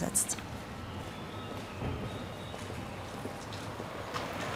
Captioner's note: traffic rushing, birds chirping